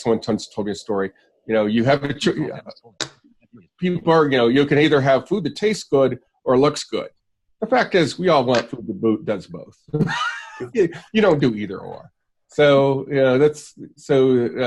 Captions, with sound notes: Someone once told me a story. You can either have food that tastes good, or looks good. The fact is, we all want food that's both, (luaghs) you don't do either-or.